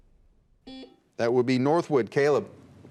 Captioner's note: buzzer beeps